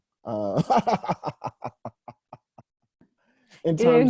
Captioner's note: laughing